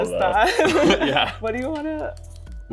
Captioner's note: both laughing